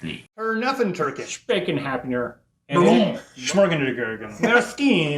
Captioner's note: speaks in foreign language